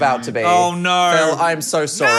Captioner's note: buzzer buzzing